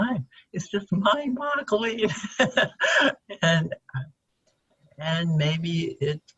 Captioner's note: chuckles